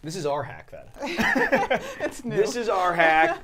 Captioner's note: all laughing